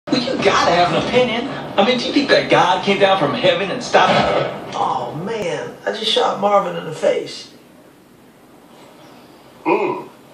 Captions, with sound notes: Well, you gotta have an opinion. I mean, do you think that God came down from heaven & stopped--? [Gunshot] Oh, man. I just shot Marvin in the face. Mmm!